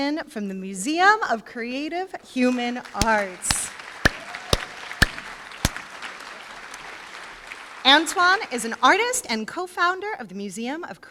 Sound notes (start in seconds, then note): 3.9 applause